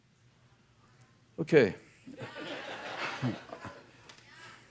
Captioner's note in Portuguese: risos